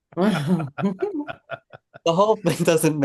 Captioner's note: panelists chuckling